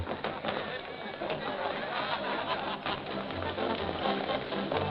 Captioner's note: overlapping chattering; upbeat music